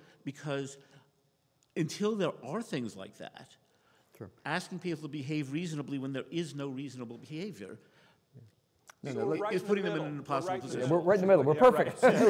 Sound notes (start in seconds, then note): 8.1 faintly speaking; 9.0 people chattering; 11.6 people laughing